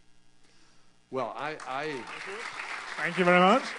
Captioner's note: applause